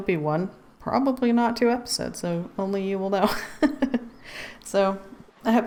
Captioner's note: laughs